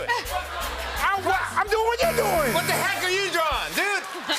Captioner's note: buzzer